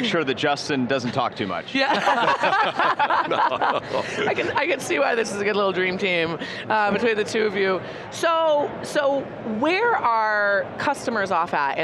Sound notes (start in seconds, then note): 1.8 group laughs